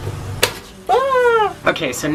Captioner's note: toaster pops